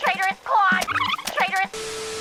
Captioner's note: tape rewinds